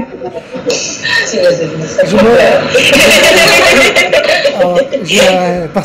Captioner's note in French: Rire